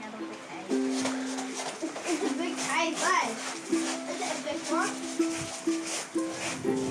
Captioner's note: pebbles crunch